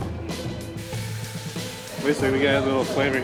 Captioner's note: sizzling